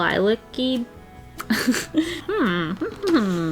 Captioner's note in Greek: Γέλια